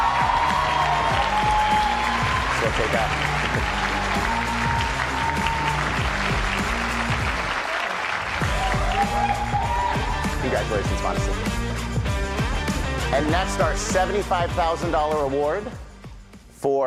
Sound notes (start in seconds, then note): 6.3 applause and cheering